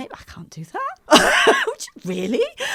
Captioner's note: laughs